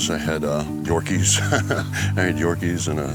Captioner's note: laughs